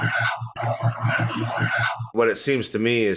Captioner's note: eerie voice